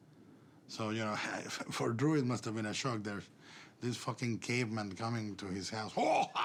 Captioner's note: chortling